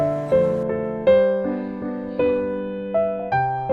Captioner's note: trembling